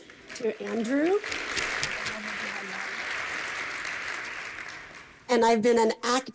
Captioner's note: applause